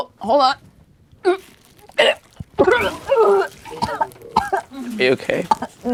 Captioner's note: puking